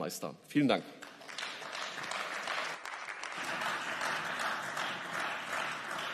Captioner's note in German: Beifall